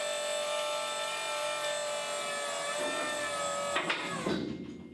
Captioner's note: deck hydraulics whining